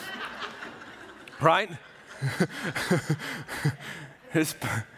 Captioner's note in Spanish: la congregación se ríe; risas